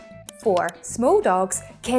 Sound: graphics clicking

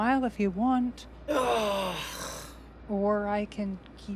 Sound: groans

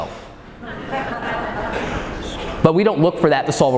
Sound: audience laughing

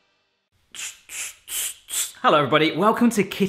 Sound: mimicking air pumping

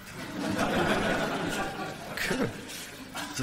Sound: audience laughing

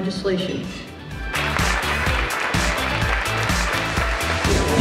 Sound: applause

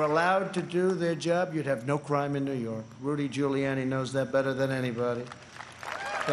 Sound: applause

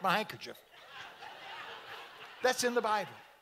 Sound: audience laughing

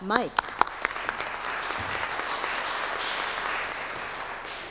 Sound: audience applauding

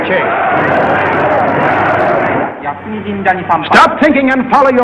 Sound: crowd shouting

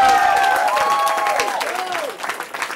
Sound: cheering

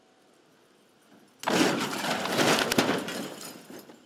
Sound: crash

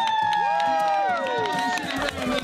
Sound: cheering

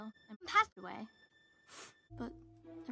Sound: sniffs

